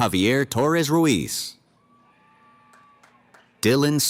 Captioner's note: cheering